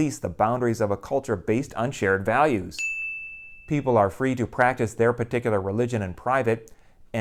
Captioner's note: chime